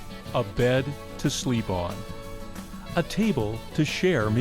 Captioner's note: voiceover